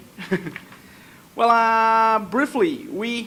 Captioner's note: laughs